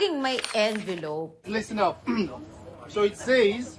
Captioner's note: clears throat